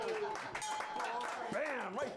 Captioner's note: applause; bell rings